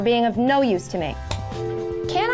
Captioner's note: phone ringing